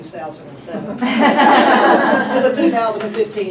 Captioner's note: group laughs